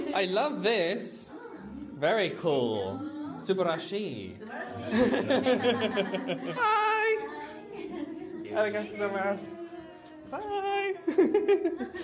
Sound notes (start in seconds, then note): 3.8 speaks Japanese; 4.9 cast Member speaks Japanese